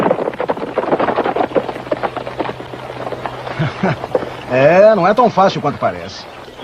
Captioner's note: laughing